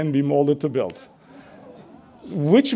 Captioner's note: audience laughs